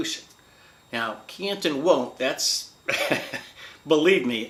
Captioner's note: laughs